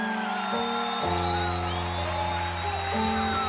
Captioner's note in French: acclamations du public